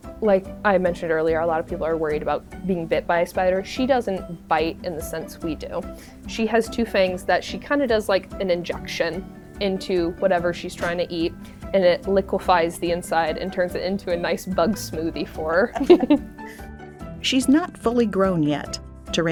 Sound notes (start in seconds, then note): 15.7 both chuckling